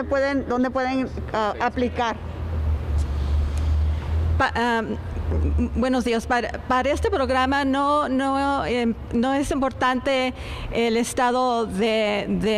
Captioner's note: speaking spanish